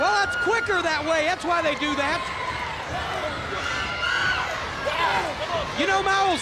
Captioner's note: wrestlers grunting